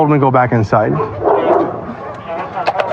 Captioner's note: dogs barkg